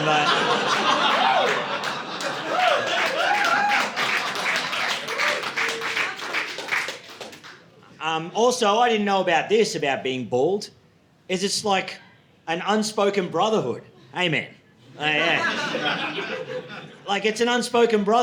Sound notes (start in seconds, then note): 0.0 audience laughing; 2.7 audience applauding